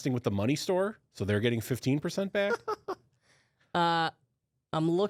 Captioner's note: laughs